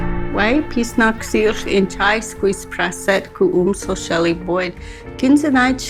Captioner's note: speaks Indigenous language